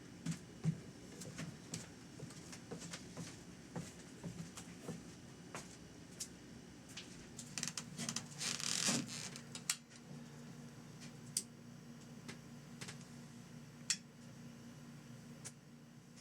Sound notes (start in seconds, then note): 0.1 pattering footsteps; 8.1 floorboards squeak; 9.1 switches clicks